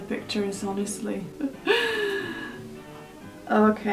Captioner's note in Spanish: Risas-suspiros